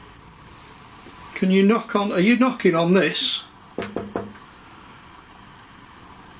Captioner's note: knocks